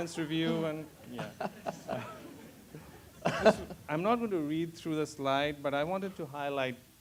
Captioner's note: laugh